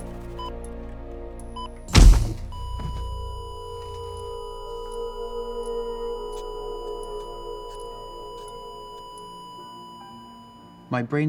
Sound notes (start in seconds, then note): 1.8 defibrillator shock - flat line